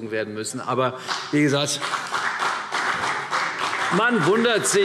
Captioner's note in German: Beifall